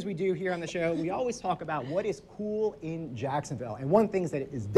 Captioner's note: laughs